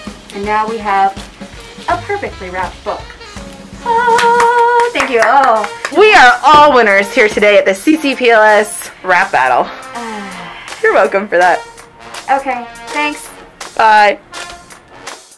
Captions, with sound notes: And now we have a perfectly wrapped book. (applause) Ahh... Thank you! Oh... - We are all winners today at the CCPLS Wrap Battle! (sigh) You're welcome for that. - Okay. Thanks! - Bye!